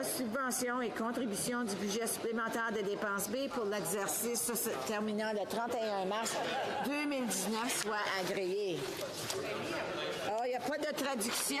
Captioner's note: speaking in French